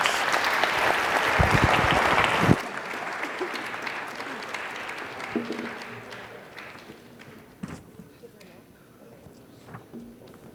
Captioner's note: applause